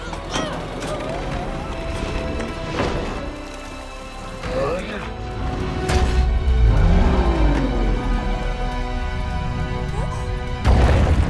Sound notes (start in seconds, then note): 4.6 growling; 6.6 growls